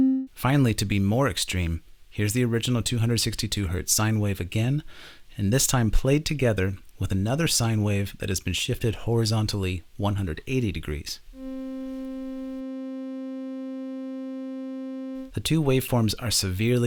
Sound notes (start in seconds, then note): 11.4 two sine waves playing